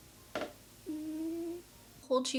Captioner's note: cat snoring